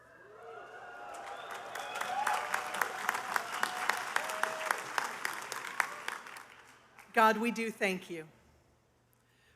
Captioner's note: cheers and applause